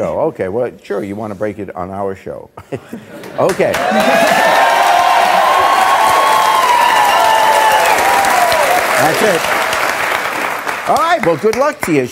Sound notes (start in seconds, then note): 3.2 audience clapping